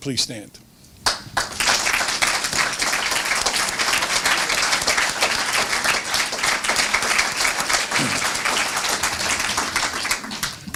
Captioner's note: applause